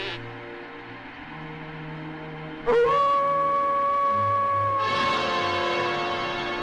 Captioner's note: howling Continues